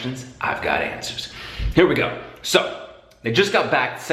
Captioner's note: deep breath